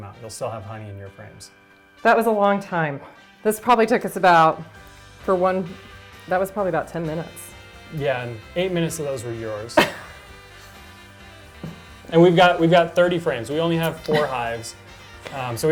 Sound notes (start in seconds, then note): 9.7 laughs